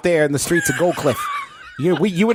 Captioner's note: laughs